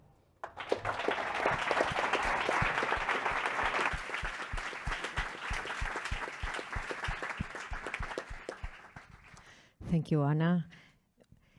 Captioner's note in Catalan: Aplaudiment